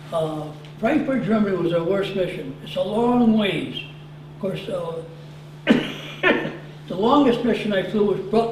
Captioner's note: cough